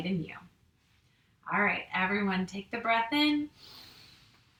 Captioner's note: inhales